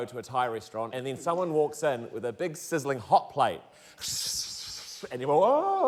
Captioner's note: imitates sizzling